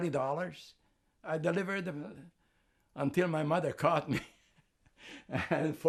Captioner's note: laughing